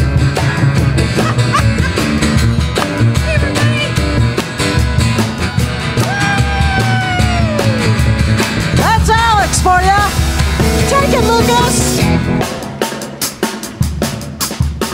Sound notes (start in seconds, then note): 3.8 shouting; 12.0 drums playing